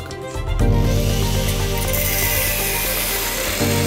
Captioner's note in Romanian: zgomot de ferăstrău electric